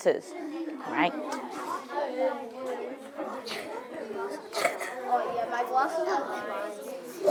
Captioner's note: students chattering